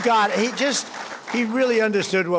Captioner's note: applause